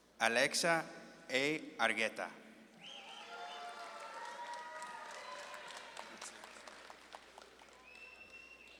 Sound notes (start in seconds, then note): 3.0 audience claps and cheers